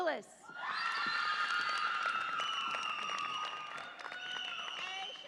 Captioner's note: audience applauds and cheers